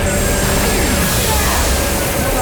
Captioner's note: screaming; groaning